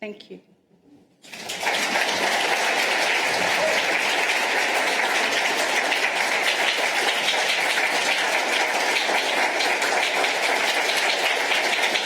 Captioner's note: applause